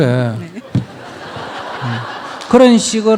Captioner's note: audience Laughter